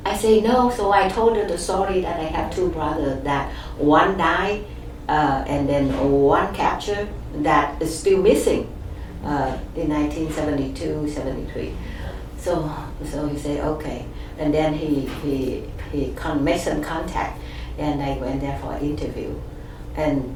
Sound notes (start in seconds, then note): none